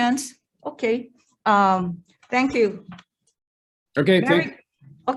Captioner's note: paper rustling